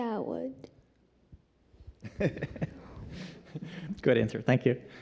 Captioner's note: laughs